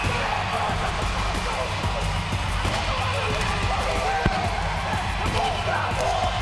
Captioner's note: The Usos chanting in foreign language